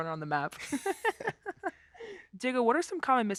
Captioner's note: laughing